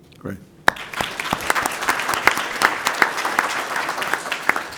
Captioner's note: applause